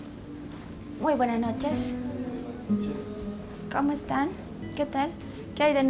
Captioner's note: speaking foreign language